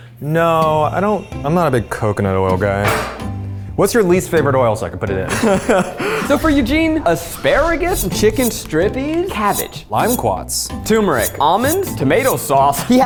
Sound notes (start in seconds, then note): 5.2 laughing